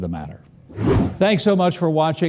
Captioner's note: wind whooshing